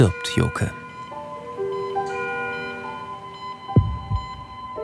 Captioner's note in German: Hektische Pieptöne, sphärische Musik